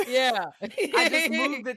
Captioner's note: laughs